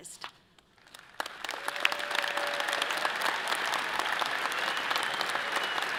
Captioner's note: audience applauding and cheering